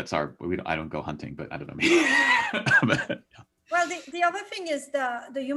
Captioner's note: laughs